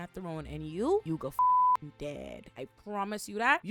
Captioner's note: beep